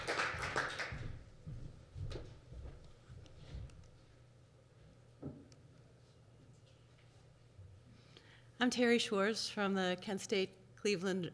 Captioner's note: applause